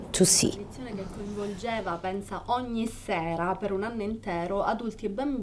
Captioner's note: non-english speech